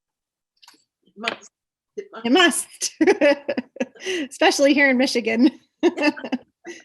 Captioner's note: laughter